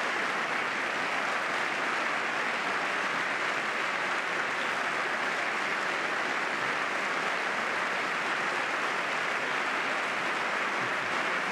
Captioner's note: applause